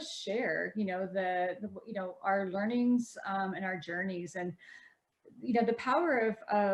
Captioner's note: stammering